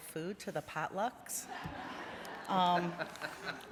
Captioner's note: laughter